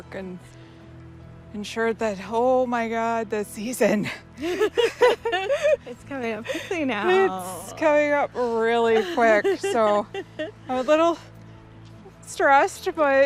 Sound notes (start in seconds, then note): 4.3 laughs